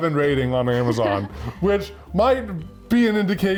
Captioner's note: laughs